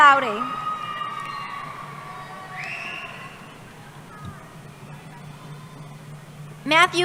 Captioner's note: cheering